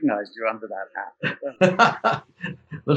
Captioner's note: laughs